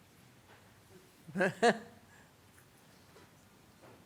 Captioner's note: laughs